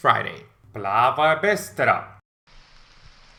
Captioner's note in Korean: 러시아어